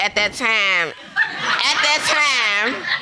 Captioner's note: audience laughing